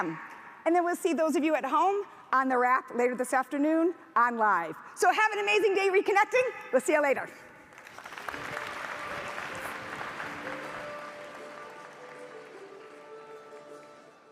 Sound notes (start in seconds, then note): 7.7 audience applauds